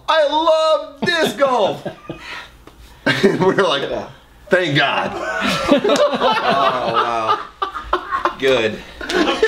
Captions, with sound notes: I love disc golf! (laughs) We're like, thank God! (laughs loudly) - Oh wow. Good.